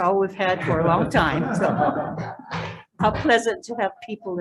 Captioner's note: people laughing